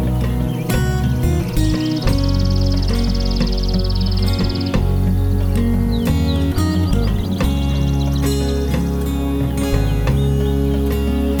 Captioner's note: morning bird song